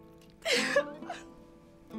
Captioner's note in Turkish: Ağlama sesi